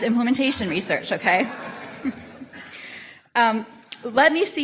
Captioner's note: audience laughter